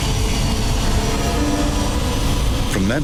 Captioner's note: airplane engine whirring